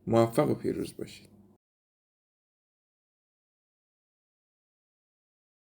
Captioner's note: awkward silence